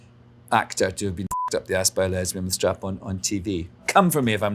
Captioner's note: beeps